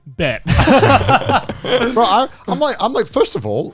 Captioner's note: all laughing